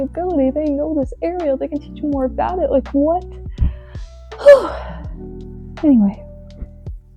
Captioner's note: sigh